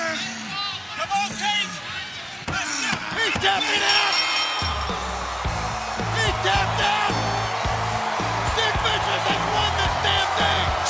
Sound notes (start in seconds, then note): 2.5 fist thudding; 4.6 bell ringing; 4.7 fun rock music; 8.4 Sid screaming